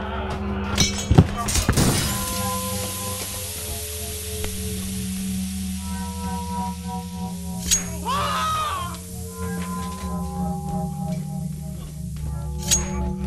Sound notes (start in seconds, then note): 2.1 gas hissing; 9.9 dramatic music